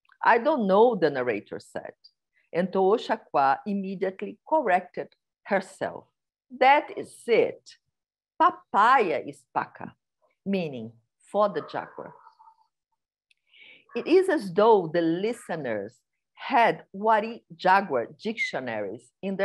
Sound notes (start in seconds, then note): 9.3 non-english speech